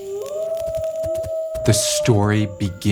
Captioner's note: fire crackling; wolf howling